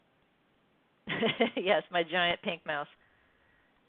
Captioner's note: laughs